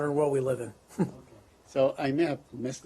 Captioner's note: laughter